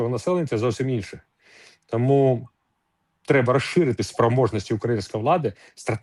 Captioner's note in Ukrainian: сопіння